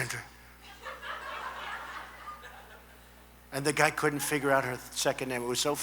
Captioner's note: laughter